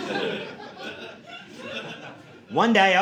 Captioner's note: audience laughing